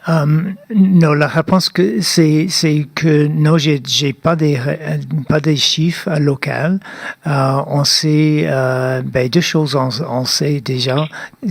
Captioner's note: speaking French